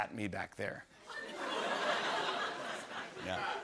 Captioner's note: laughter